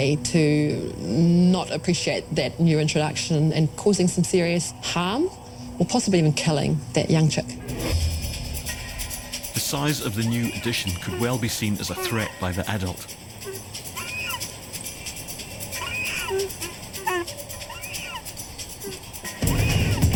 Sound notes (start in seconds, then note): 14.0 takahē vocalising; 14.0 tense music